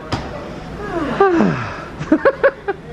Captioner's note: both sigh contentedly; chuckles